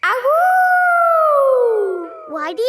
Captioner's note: howling